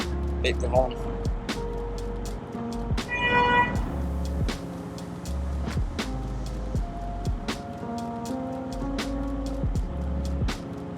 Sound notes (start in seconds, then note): 3.2 Canalboat horn sound